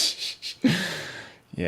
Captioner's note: laughter